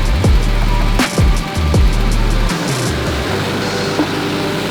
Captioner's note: engines revving